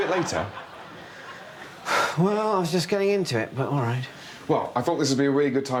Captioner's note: sighs